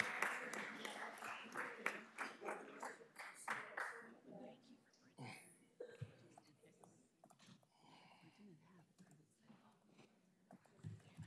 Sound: applause

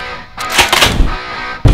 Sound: cocks shotgun

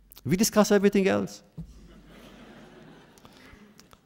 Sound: laughter

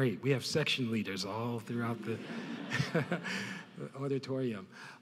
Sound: laughs

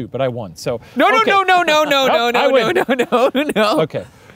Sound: laughs

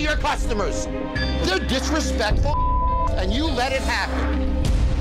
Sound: beep

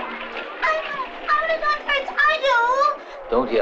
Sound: children screaming

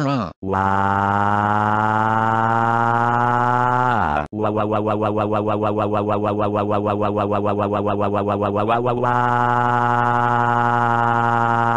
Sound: crying

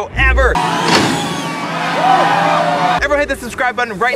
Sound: audience cheering

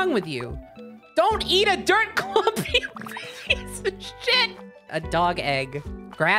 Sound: cracking up

